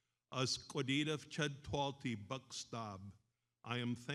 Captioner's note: speaks in foreign language